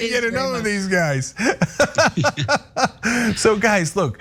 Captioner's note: laugh